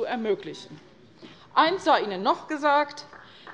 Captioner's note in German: Beifall bei Abgeordneten der CDU